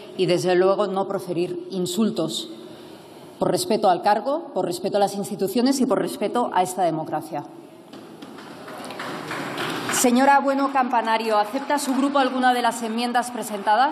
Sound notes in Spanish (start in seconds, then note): 8.2 Aplausos